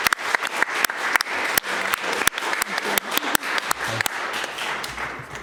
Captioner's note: applause